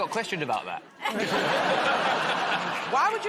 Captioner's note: laughter